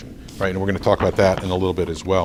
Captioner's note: rustles papers